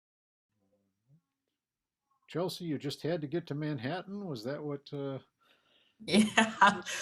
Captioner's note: laughs